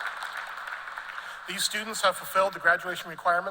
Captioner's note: applause